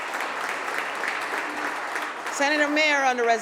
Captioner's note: applause